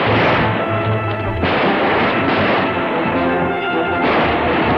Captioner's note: gun fires